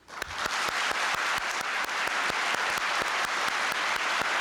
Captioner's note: applause